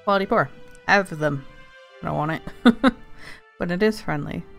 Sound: laughs

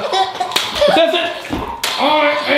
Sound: girl laughs

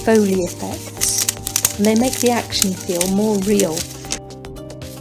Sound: wicker crunches

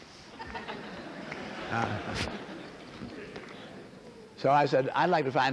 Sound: laughter

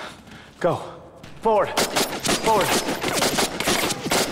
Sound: guns blasting

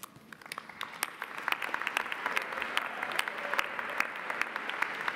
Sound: audience applauding

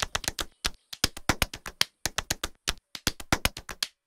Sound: slapping

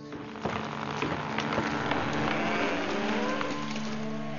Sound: tree creaks

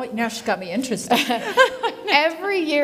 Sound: laughs

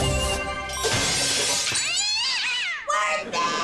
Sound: meowing

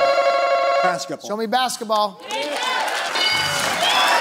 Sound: answer button rings

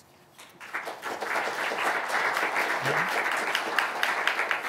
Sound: audience applauding

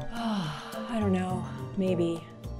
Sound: Mandy sighs

